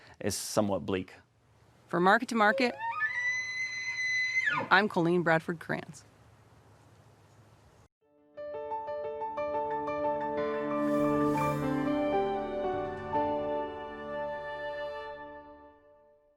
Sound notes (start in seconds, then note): 2.4 elk bugling; 8.3 uplifting music